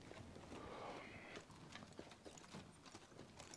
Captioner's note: sighs